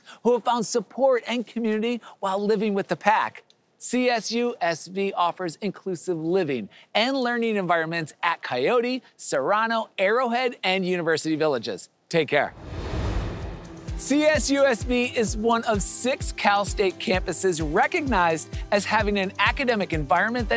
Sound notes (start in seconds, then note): 12.5 air whooshing